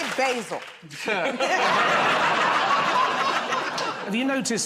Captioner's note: laughter